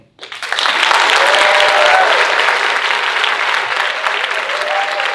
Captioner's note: audience cheering and applauding